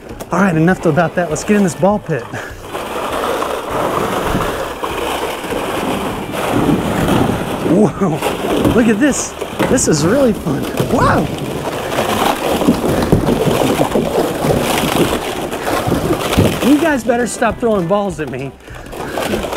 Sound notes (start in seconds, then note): 3.0 balls swooshing; 12.3 balls ping-ponging; 12.3 balls swooshing